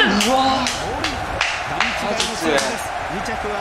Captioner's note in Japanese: 拍手